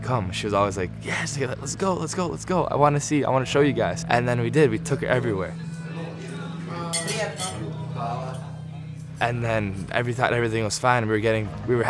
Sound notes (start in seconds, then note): 6.9 woman speaks in foreign language; 8.1 speaks in foreign language